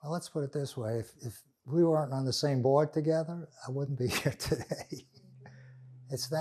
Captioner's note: laughing